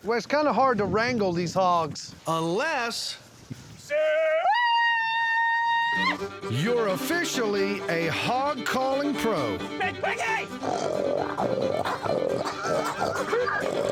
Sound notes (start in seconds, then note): 10.4 imitates a hog grunting; 12.2 laughs